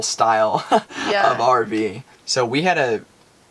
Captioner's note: laughing